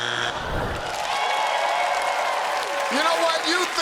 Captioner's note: cheers and applause